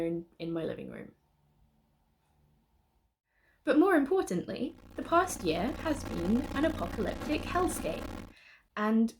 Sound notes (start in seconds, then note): 4.7 brief distorted noises